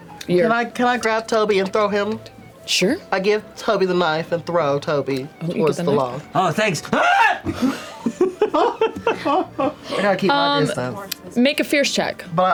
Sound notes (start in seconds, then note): 7.4 laughter